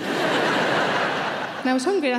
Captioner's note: audience laughing